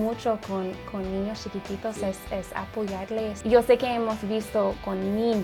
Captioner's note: speaking in Spanish